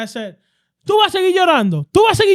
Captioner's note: speaking In Foreign Language